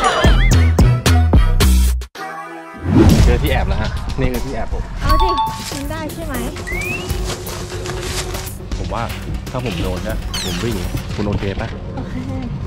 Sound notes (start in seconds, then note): 0.0 upbeat music playing; 6.7 footsteps